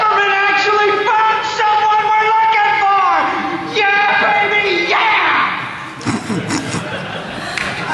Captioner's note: applause